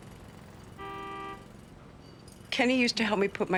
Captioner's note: car horn honks